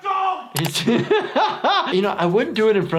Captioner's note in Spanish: reír